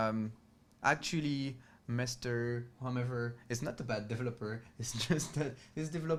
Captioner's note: laughs